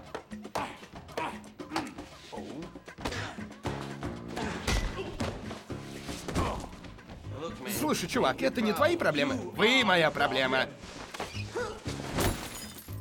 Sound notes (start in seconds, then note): 4.5 clank; 12.1 glass breaks